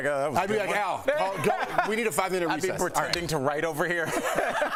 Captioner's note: laughter